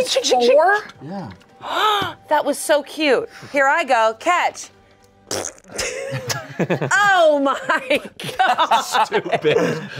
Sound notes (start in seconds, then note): 1.6 gasps; 5.2 blows raspberry; 5.8 everyone laughs